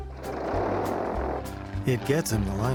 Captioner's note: plane engine buzzes